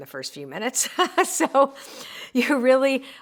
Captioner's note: laughs